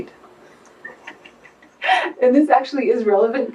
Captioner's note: laughs